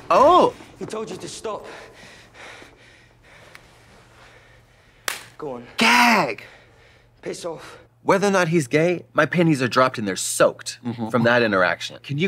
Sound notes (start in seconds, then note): 1.6 Nick panting; 5.0 Katya clapping